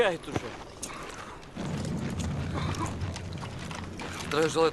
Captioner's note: sound of wind